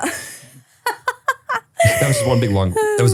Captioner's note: laughs